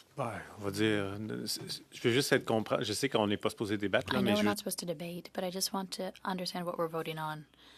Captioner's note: speaking French